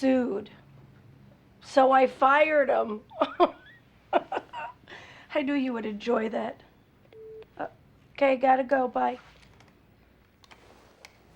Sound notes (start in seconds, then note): 4.1 laughs; 7.0 beeps